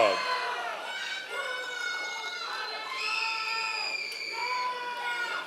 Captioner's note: members of the audience cheering